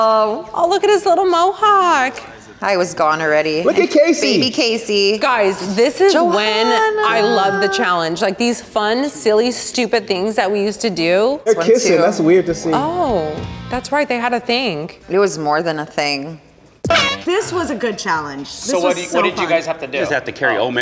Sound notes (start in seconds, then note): 16.8 horn blows